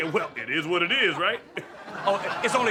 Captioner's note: audience laughs